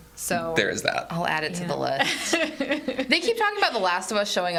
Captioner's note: laughs